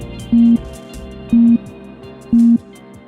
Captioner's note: beeping